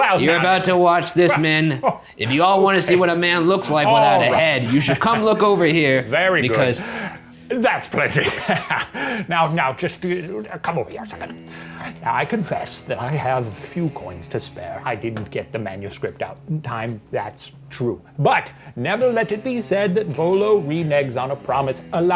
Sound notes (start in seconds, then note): 8.0 chuckles; 9.7 stammers